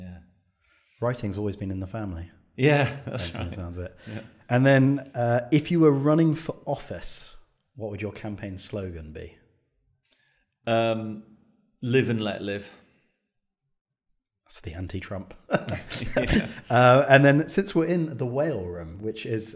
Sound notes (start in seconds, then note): 2.7 chuckles; 15.5 chuckles